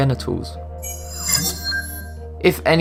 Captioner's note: sharp chiming